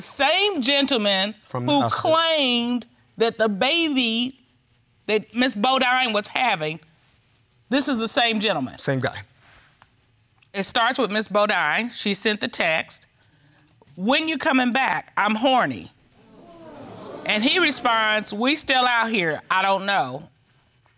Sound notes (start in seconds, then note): 16.2 audience gasping